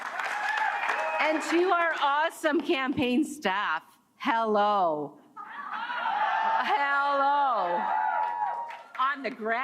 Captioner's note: cheers and Applause